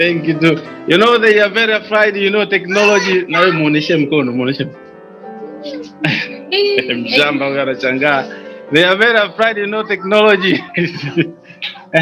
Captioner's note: speaking Swahili